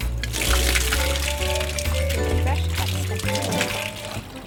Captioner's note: water splashing